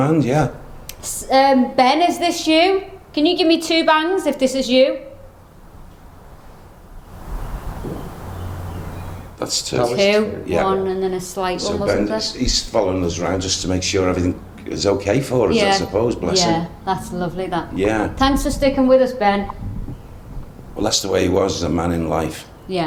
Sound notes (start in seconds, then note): 7.0 whooshing; 7.7 thudding